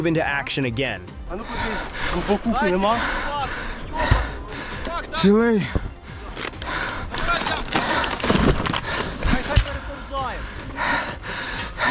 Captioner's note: panting